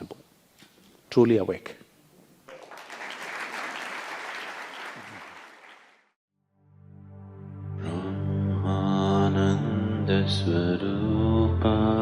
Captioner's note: applause